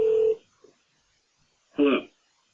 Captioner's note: phone ringing